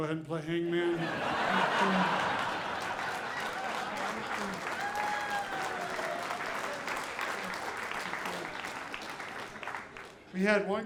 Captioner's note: audience applauding